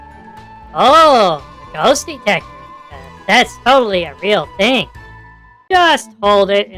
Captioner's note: mockingly